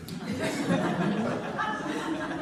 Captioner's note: laughter